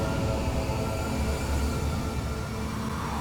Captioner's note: howling wind